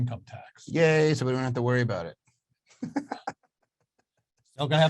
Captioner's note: laughs